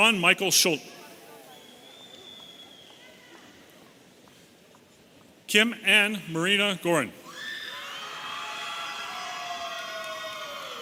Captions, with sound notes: Sean Michael Schult. (audience whistling) Kim Anh Marina Gorin. (audience cheering)